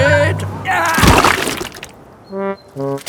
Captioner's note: groans